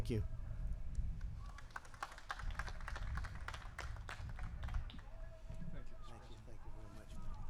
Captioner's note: applause